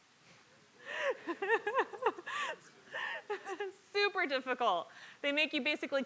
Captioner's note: laugh